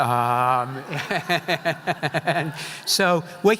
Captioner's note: laughing